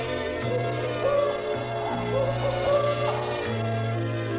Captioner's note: owl hooting